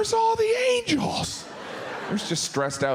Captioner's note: audience laughs